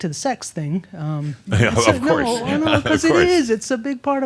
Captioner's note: chuckles